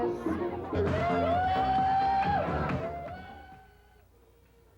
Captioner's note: dancers whooping and hollering